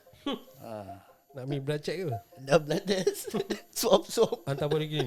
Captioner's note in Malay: ketawa